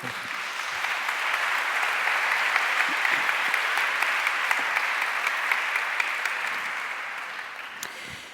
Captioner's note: applause